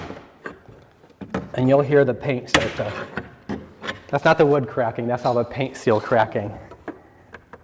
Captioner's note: popping noise